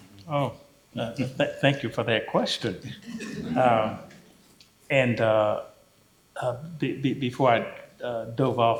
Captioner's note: laughter